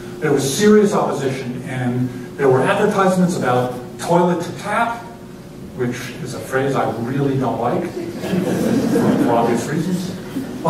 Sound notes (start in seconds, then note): 8.0 laughter